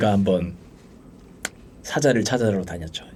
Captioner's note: driving